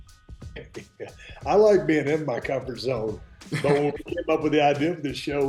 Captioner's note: laughs